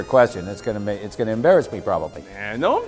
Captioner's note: laughs